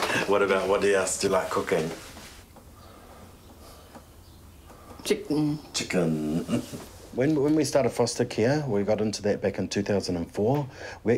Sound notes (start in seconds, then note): 6.4 chuckles